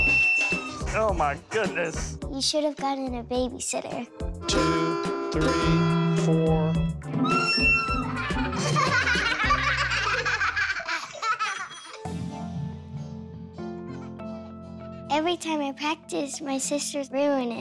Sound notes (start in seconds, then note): 7.2 whistles; 8.0 laughter